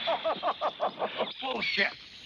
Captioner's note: laughter